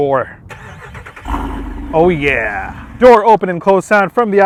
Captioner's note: engine revving